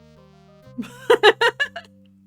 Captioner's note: laughing